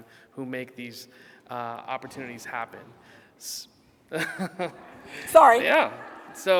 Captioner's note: laughing